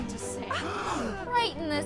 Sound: gasps

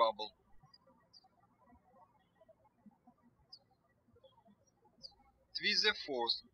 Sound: birds chirping

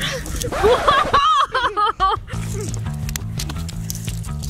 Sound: laughs

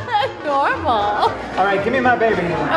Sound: laugh

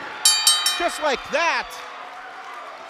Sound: bell rings

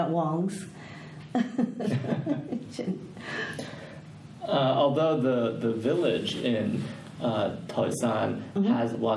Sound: all laugh

